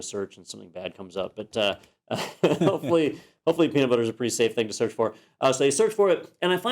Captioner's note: laugh